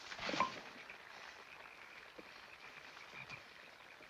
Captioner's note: frogs croaking